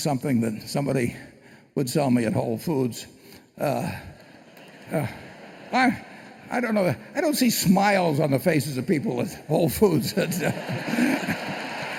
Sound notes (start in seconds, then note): 4.2 laughter; 10.0 laughter and applause